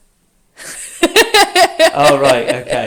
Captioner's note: laughs